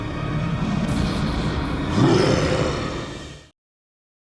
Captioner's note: growling